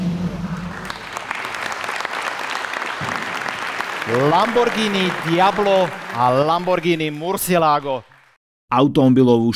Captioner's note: applause